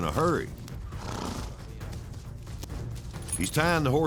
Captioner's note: horse blusters